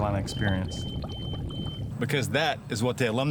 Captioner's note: beeping